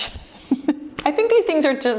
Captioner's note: chuckles